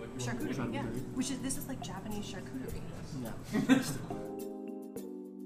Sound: laughing

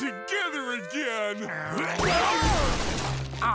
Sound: grunting

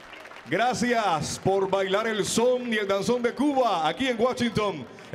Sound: MC speaking in Spanish

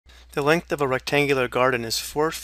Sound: voiceover

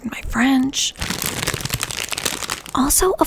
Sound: crinkling

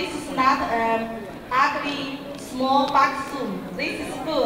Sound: crowd talking

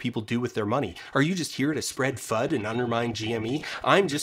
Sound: voice changes to sound robtic and evil

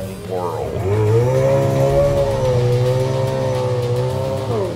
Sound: car engine revving

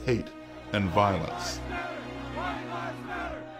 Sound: chanting

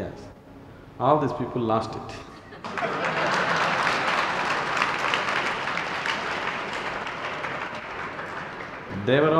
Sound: laughter/Applause

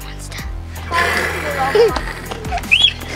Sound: growling

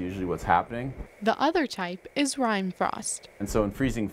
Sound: voiceover

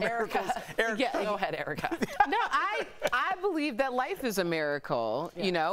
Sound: laughter

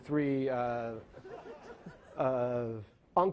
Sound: laughing

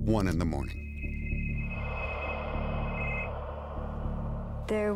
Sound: phone ringing

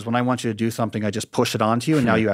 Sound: Andrew chuckling

